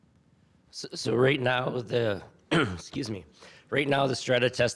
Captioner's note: clears throat